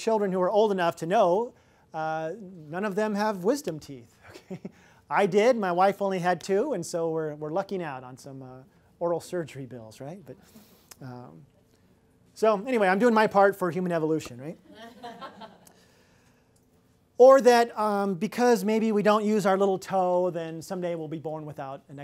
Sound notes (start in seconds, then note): 14.6 laughter